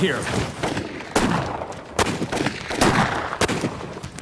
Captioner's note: gunfire